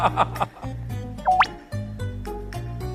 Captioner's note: laughs